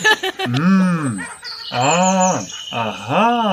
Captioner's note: hmmm!